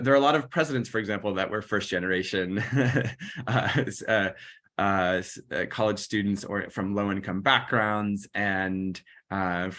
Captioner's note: laughter